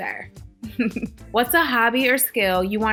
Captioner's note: laughing